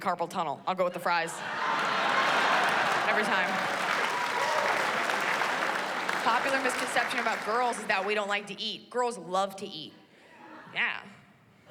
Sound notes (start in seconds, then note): 3.2 applause